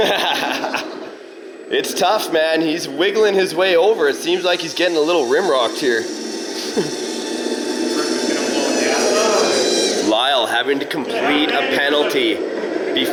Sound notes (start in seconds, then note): 0.0 laughs; 6.4 motors revving